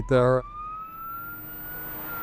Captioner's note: ambulance siren